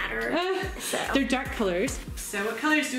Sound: laughing

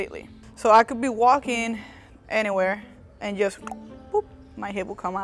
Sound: clicks tongue

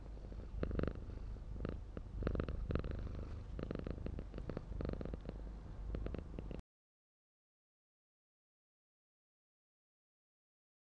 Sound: cat purring

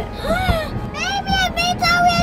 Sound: gasps

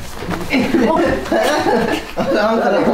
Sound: everyone is laughing

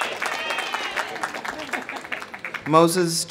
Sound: people laughing

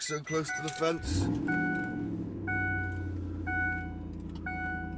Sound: engine starts

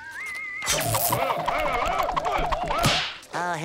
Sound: grumbling

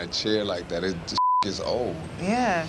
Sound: beep

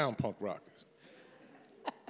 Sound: chuckles

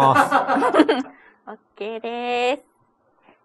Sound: laughs

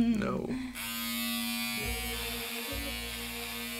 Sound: hair clippers buzzing

